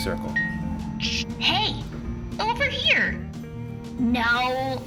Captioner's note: ding